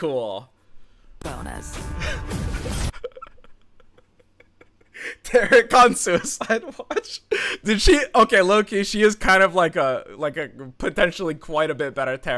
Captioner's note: chuckles